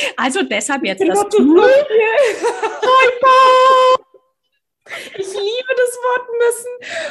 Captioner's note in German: lacht; lachen